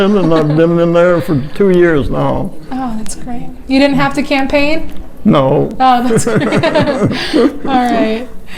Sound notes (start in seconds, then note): 6.0 chuckles; 6.0 laughing